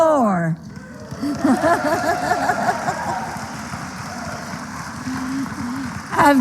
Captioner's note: applause; laughter